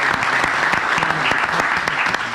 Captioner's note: applause